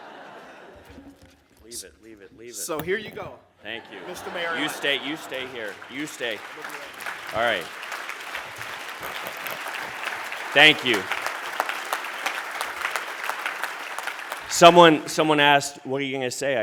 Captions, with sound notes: [laughter] So here you go. Thank you, Mr. Mayor. You stay, you stay here. You stay. All right. [applause] Thank you. [applause] Someone, Someone asked, "What are you going to say?"